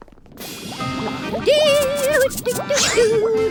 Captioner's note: humming